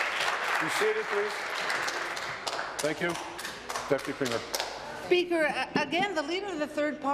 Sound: applause

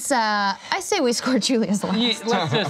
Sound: laughs

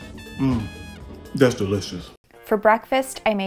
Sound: moans

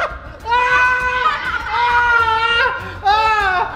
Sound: screaming

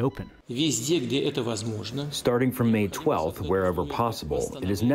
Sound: through translator

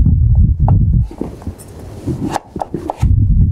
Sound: cutting

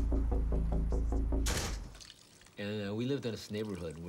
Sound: door thuds

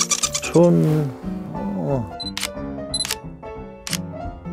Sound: clicking sounds

